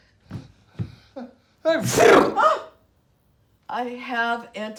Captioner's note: sneezing loudly